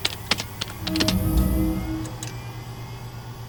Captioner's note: keyboard clacking; ethereal chime